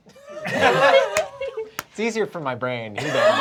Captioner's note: laughter; laughter